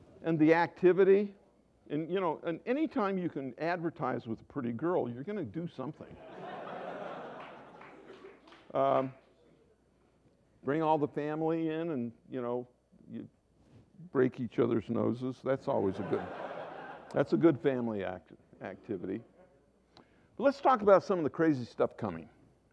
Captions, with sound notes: And the activity, and you know, and any time you can advertise with a pretty girl, you’re going to do something. [Laughter] Bring all the family in, and you know, you break each other’s noses, that’s always, that’s a good family activity. But let’s look at some of the crazy stuff coming.